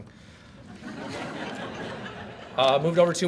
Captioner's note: audience laughs